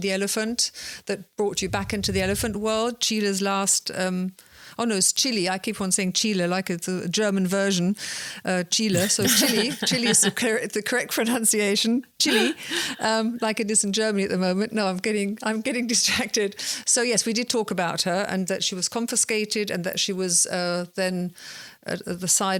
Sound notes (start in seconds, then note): 16.3 laughing